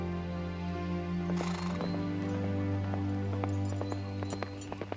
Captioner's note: hoofbeats thudding